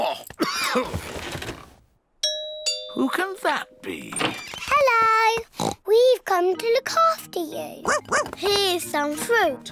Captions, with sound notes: -(DOORBELL RINGS) -Who can that be? Hello! (OINKS) We've come to look after you. (BARKS) Here's some fruit!